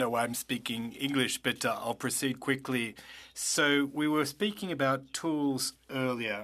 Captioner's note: speaking French